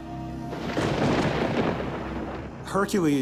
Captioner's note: thunder roars